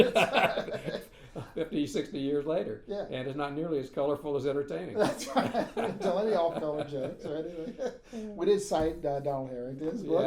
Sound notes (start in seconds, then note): 0.0 laughing; 5.0 laughing